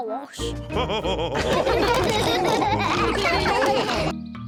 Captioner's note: all laughing